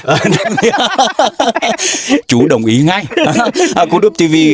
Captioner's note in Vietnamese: tiếng cười